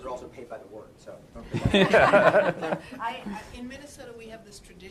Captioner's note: laughter